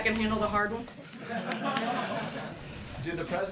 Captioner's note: laughter